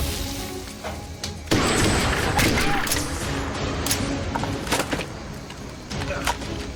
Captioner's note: gunshot; gunfire